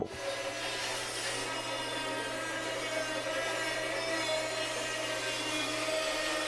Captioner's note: band saw whirring